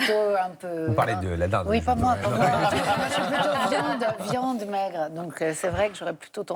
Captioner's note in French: rires